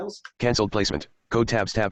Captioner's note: computer Voice